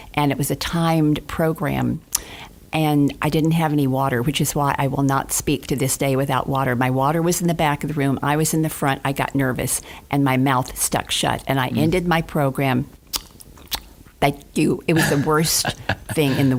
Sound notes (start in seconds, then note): 13.0 smacking lips; 14.9 laughing